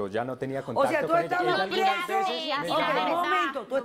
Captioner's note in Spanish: Hablan al unísono